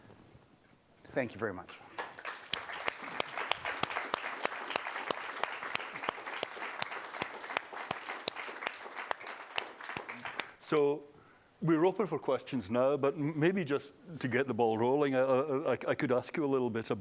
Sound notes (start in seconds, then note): 6.5 applause